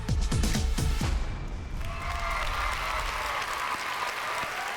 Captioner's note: cheering